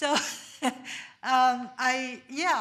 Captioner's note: laughs